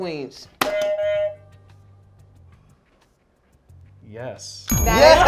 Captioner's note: buzzer beeps